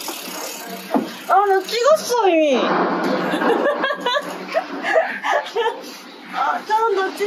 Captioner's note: laughter